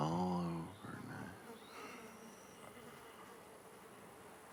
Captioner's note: flies buzzing